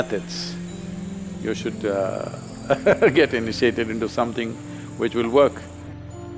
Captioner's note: laughs